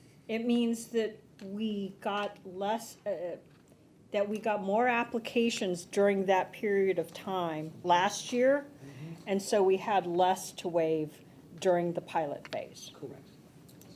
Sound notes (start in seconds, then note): none